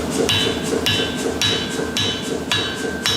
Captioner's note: light knocking